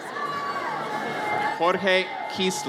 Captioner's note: audience cheers